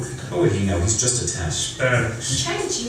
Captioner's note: male Voice